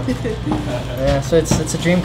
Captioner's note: laughing